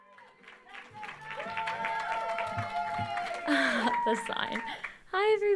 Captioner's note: crowd cheering loudly